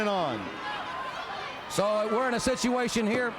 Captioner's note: crowd chatter